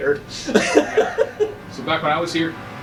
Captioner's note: laughs